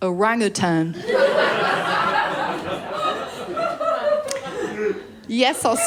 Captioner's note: laughter